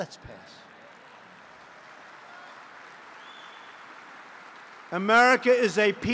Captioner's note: laughter and applause